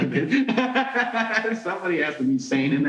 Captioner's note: laughing